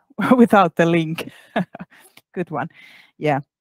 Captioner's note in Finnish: Laughs